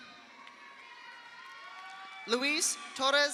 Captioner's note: audience cheers; audience applauds